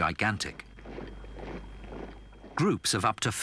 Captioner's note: boots thudding